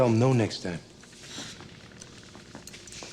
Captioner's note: scoffs